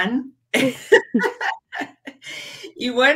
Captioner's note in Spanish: ríe